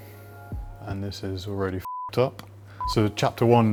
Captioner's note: beep